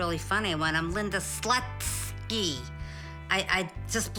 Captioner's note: exaggerates syllables